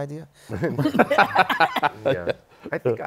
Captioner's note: laughter